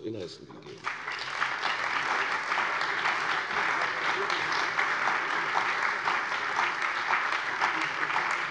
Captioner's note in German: Beifall bei der CDU und dem BÜNDNIS 90/DIE GRÜNEN